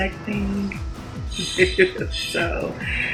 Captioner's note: chuckles